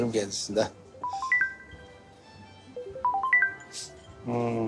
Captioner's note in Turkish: Telefon çalıyor